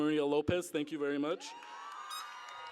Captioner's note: cheering